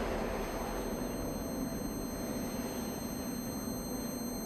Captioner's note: high pitched ringing